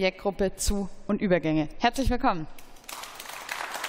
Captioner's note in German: Beifall